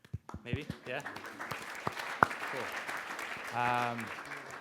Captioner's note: applause